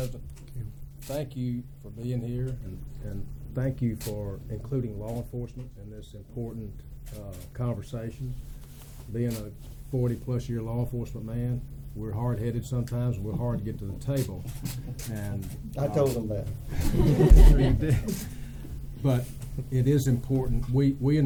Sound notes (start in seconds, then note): 16.7 laughter